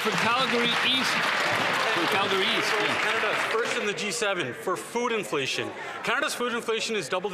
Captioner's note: some Applause